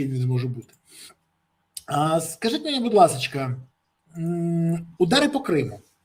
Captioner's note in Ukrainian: сопіння